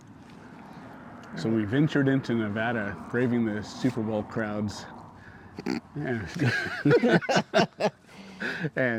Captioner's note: laughing